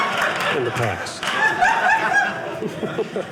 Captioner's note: audience laughing